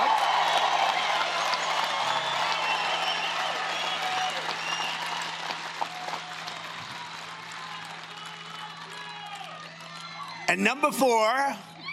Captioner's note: cheering and Applause